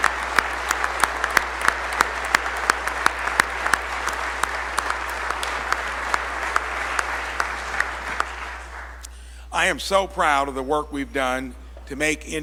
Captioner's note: applause